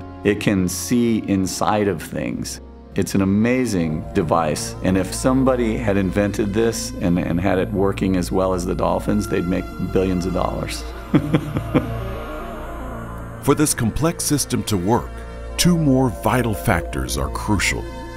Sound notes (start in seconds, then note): 11.0 laughs